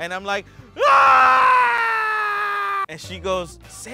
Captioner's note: wailing